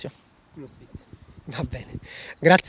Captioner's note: laughs